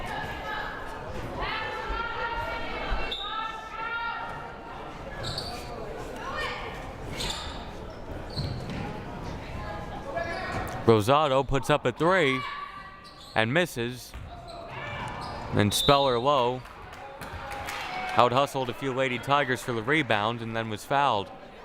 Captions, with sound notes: (crowd murmuring) (whistle blaring) (coaches shouting) Rosado puts up a three and misses. And Speller-Lowe out-hustled a few Lady Tigers for the rebound, and then was fouled.